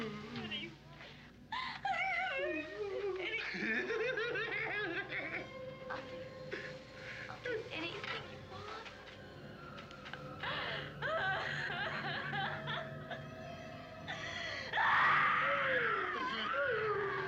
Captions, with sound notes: What do you want? I'll do anything. Anything. (laughs) I'll do... I'll do anything you want.